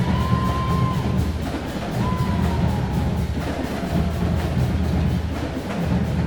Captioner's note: crowd cheering